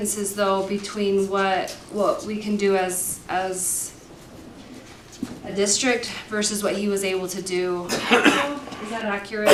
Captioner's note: cough; clears throat